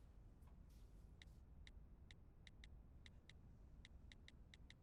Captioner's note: clicking